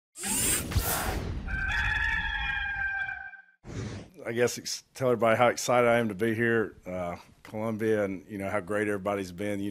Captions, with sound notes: (air whooshing) (rooster crowing) - I guess, to tell everybody how excited I am to be here, Columbia, and how great everybody's been,